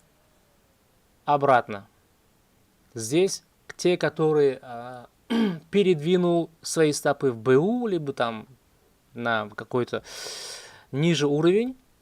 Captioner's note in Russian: откашливается